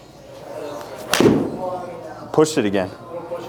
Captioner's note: thumping sound